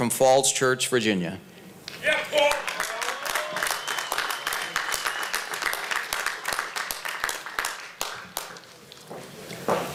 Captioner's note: applause